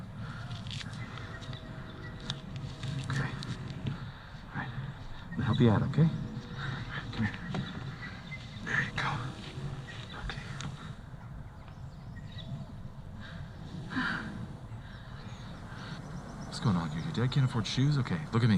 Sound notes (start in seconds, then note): 12.4 heavy breath